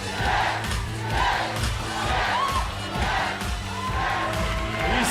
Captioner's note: crowd cheering